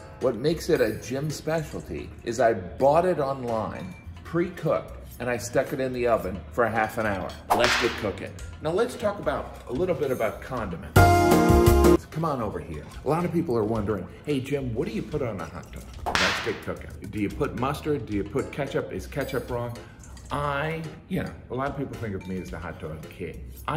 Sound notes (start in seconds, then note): 7.5 whip cracking; 10.9 elevator music; 16.0 whip cracking